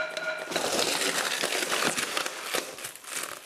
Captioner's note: loud crackling